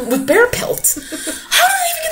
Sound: laughs

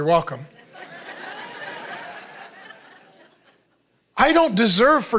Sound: congregation laughing

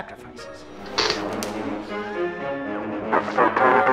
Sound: electricity cracking

